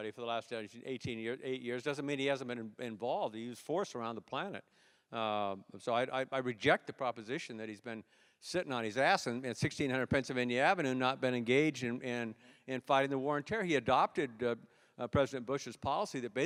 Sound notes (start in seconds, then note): none